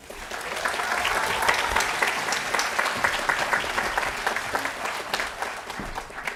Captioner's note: applause